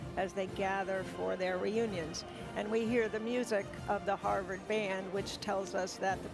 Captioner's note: none